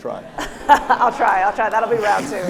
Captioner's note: audience laughs